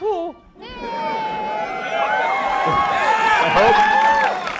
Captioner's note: cheering